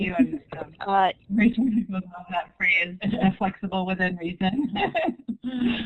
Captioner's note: laughs